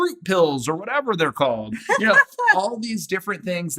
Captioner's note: laughs